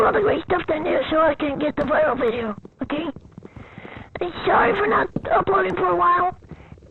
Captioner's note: breathes